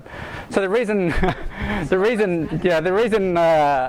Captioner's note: laughs